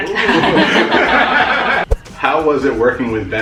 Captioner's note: laughter